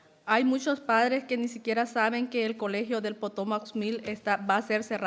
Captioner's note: speaking in foreign language